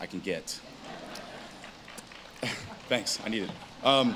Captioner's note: audience laughs